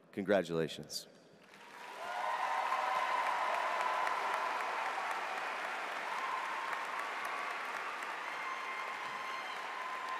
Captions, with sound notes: Congratulations. (audience applauds) (cheers)